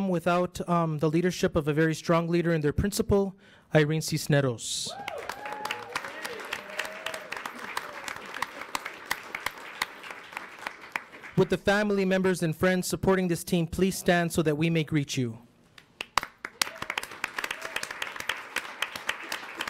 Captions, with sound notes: without the leadership of a very stronger leader and their Principal, Irene Cisneros. (audience applauds) (audience cheers) Would the family members and friends supporting this team please stand so that we may greet you? (audience applauds)